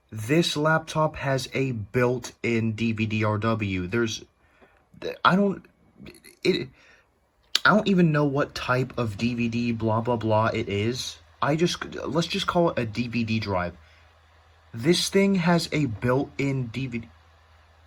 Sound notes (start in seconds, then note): 5.8 sputtering; 7.5 tch